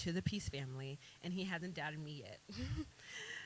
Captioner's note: laughs